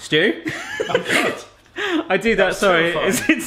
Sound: laughs

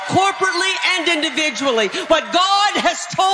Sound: congregation cheering

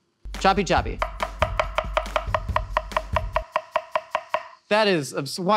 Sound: knife thudding

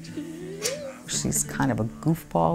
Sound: lips smacking

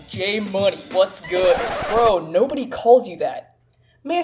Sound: record scratch

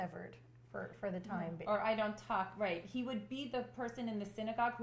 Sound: none

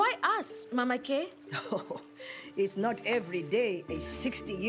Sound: chuckles

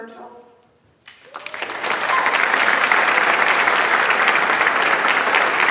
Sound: audience applauds

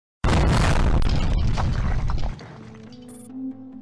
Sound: boom!

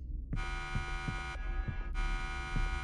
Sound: alarm sounds

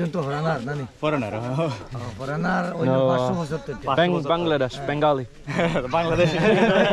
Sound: speaking local language

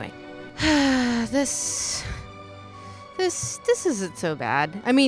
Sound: sigh

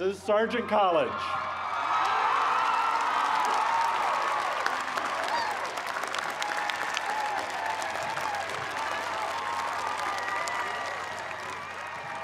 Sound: cheers and applause

